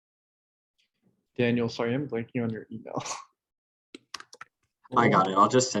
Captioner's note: laughing